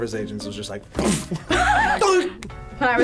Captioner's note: laughs